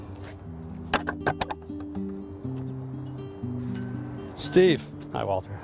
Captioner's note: gate locking